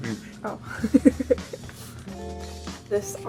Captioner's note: laughs